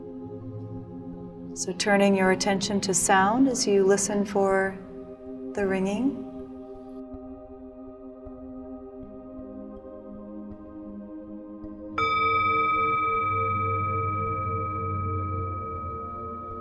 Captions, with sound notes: So turning your attention to sound, as you listen for the ringing. (bowl ringing)